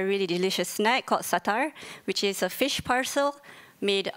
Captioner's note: speaks in foreign language